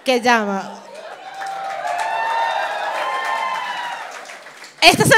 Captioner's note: appaluse